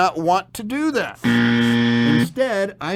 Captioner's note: buzzer buzzes